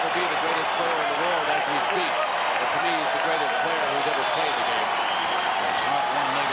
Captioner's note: cheers and applause